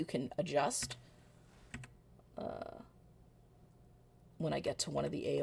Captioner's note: keyboard clicks